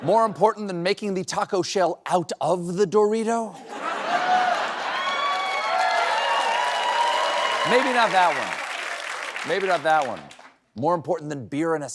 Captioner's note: cheers and applause